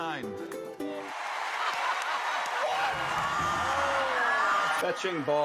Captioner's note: cheers and applause